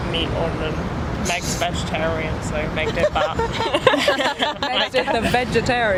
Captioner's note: all laugh